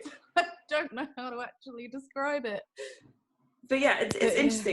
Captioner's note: laughter